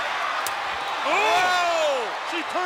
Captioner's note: crowd yelling; fleshy smacking